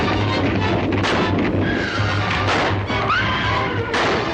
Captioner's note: gun banging; horse neighing